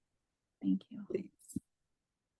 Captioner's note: long Pause